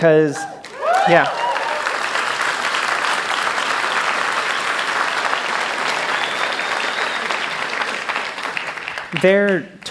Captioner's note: cheers; applause